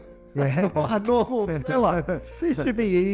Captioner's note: chuckles